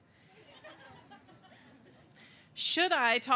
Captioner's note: laughter